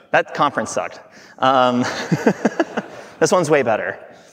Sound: everyone laughing

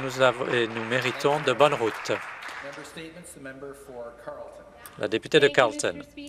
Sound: some Applause

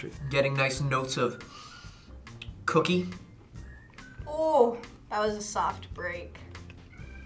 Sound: sniffs

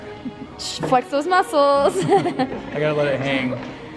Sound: laughs

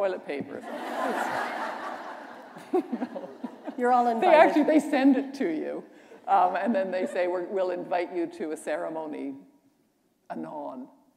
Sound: laughter

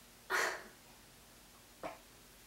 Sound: sobs

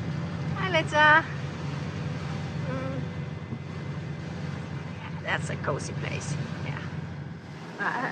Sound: engine sound and waves

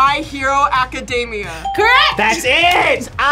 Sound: bell rings; buzzer rings

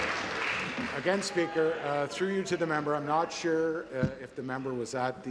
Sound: applause

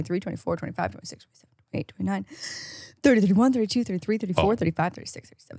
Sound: inhales

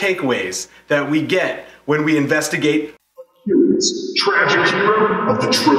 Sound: echoing

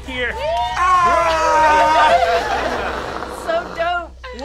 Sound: cheering; shouting

